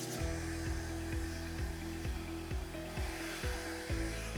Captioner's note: blower blowing